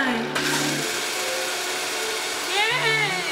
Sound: blending

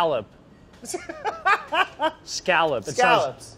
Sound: laughs

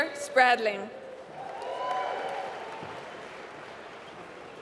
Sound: applause

